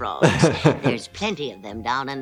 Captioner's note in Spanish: se ríe